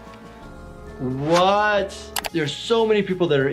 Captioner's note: keyboard clicking